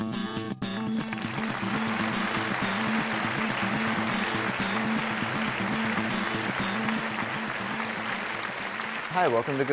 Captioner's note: applause